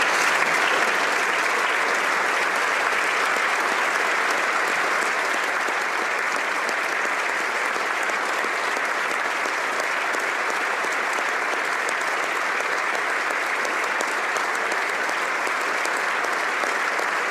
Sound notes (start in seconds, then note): 4.2 applause